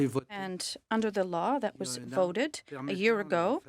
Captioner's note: speaking French